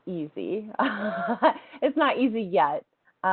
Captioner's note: laughs